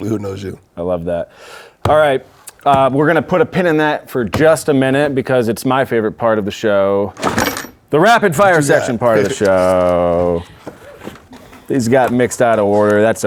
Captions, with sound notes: All right, we're gonna put a pin in that for just a minute because it's my favorite part of the show, (drawer clinking) the rapid fire section part of the show. These got mixed out of order, that's okay.